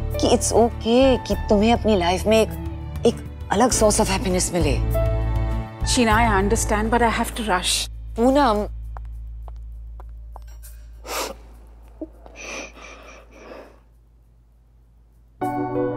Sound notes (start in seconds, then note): 12.0 sniffling